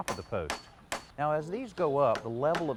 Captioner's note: hammer banging